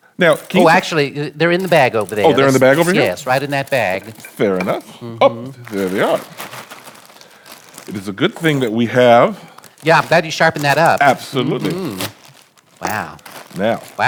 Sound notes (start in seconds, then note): 6.4 bag crinkling; 12.2 bag rips